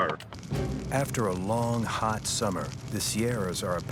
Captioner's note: fire crackling